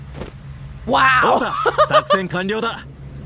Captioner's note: chuckles